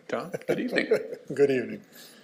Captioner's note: both chuckling